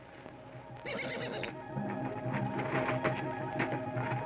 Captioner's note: horse whinnies